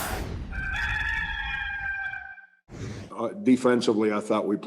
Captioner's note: cock crows